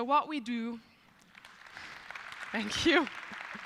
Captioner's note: applause